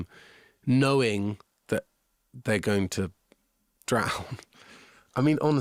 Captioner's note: laughing